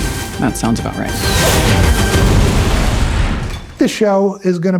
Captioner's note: explosions